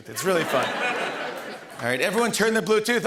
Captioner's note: laughter